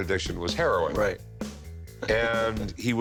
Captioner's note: chuckles